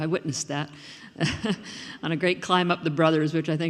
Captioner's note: laughing